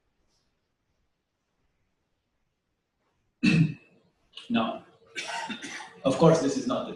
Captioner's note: pause